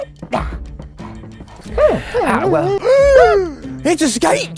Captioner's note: gasps